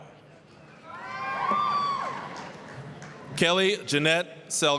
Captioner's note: applause, cheering